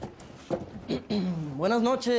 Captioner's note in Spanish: Carraspeos